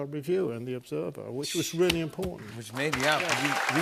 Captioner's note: applause